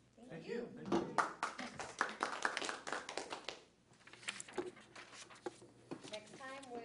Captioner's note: applause